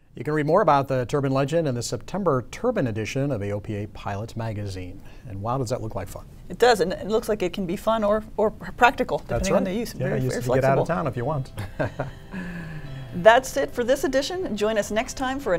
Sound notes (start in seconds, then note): 11.5 chuckle